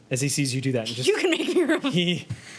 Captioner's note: murmurs